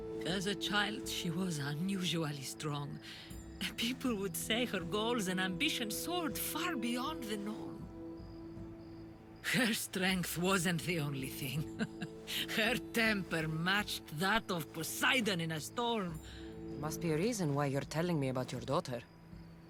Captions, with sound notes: As a child she was unusually strong. The people would say her goals and ambitions soared far beyond the norm! Her strength wasn’t the only thing. (laugh) Her temper matched that of POSEIDON in a storm! Must be a reason why you’re telling me about your daughter.